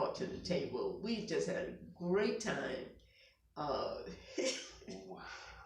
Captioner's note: laughs